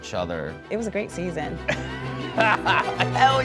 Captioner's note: laughs